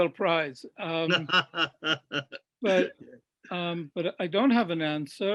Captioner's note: laughs